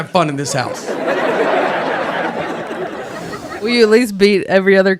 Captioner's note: audience laughs